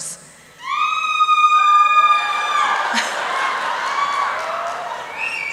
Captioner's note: applause and cheering